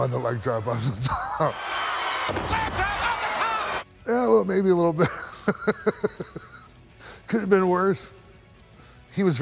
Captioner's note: laugh